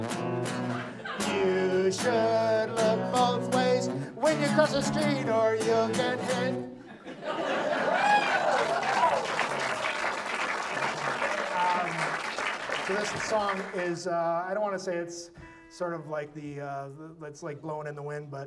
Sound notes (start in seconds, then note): 0.0 audience laughs; 1.4 guitar music; 11.7 audience laughs; 11.8 audience applauds